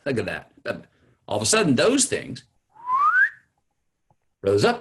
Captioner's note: whistles